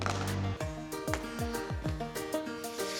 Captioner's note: circle slapping on floor; audience tittering; chair clattering; circle slapping on floor; upbeat music